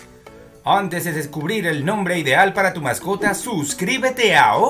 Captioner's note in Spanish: voz alegre y divertida